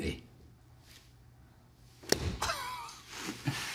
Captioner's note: laughter